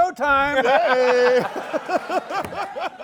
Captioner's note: laughter